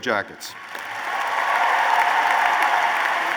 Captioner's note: applause